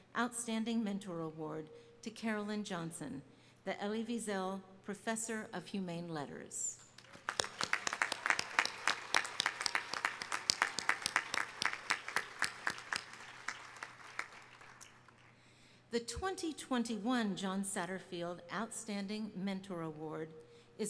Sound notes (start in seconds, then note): 7.0 audience clapping